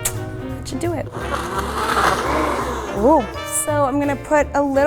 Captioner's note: buzzing